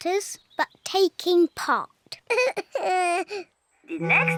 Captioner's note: sobs